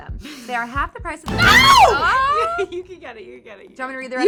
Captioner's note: girls exclaiming